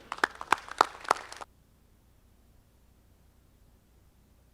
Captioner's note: audience clapping